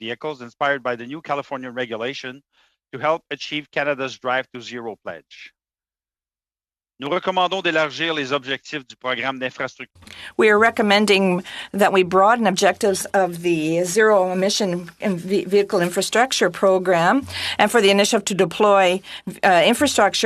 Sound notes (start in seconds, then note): 12.7 speaking in French